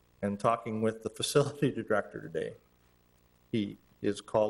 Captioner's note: none